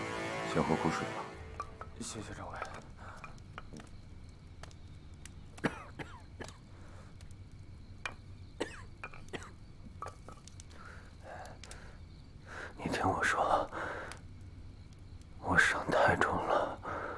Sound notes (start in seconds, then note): 5.6 cough cough cough